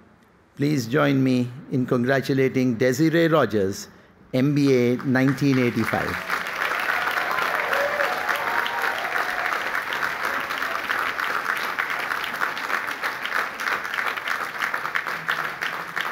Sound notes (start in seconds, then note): 5.3 applause